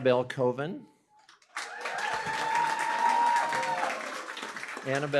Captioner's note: cheering, applause